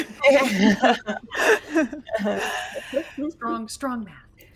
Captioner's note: group laughs